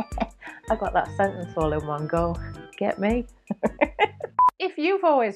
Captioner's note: chuckles